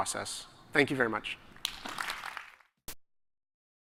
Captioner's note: applause